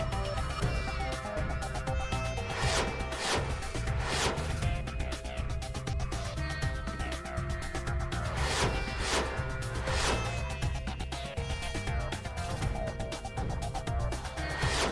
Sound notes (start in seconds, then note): 0.5 sophisticated music; 2.1 whizzing; 6.6 sophisticated music; 8.2 whizzing; 11.6 sophisticated music; 14.4 whizzing